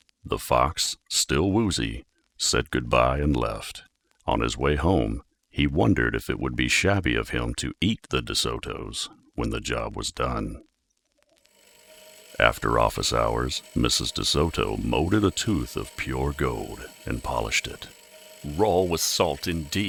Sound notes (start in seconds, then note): 11.6 drum grinding